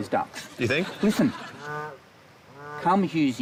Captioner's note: ducks quack